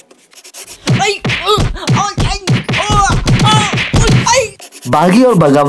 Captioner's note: Uzi groaning